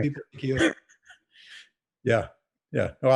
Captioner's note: laughs